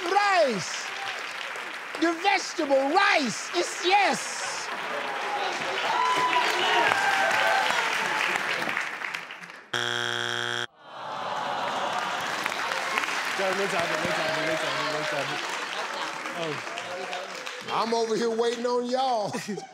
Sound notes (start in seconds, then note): 9.7 beep; 11.7 clapping